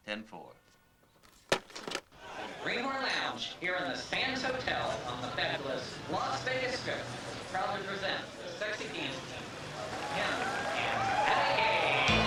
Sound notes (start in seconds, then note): 2.3 people chattering; 12.1 audience applauding